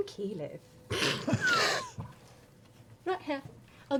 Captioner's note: laughter